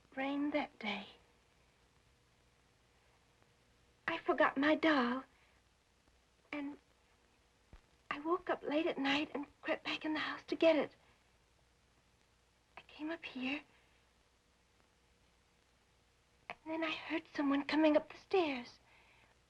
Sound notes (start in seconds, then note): none